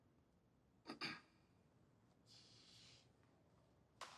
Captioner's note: clears throat